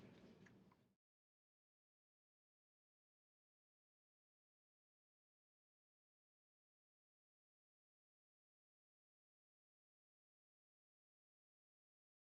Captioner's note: silence